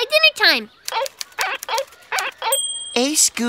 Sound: squeaking

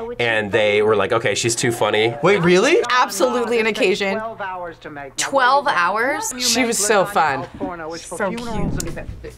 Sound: none

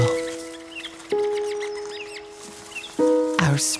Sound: animals chittering

